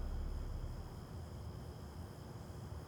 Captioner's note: crickets chirping